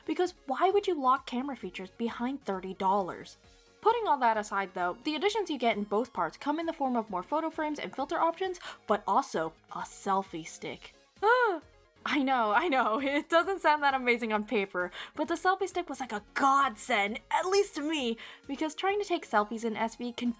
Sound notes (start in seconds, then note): 11.2 fake gasp